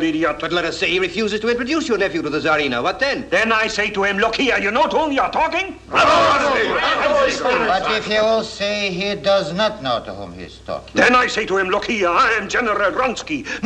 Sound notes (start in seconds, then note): 5.7 cries of approval